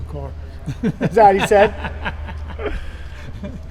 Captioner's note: Richard laughing